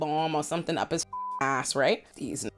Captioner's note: beep